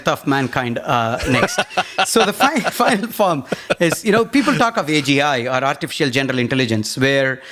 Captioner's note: laughs